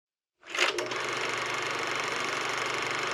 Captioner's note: whirring